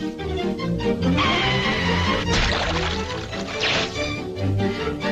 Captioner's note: water splashing